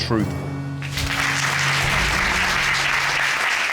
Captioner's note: applause